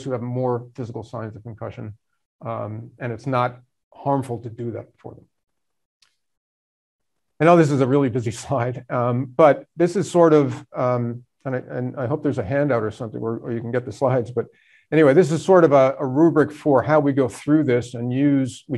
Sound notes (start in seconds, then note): none